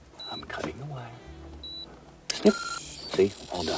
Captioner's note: bomb beeping